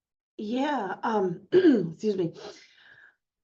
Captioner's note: clears throat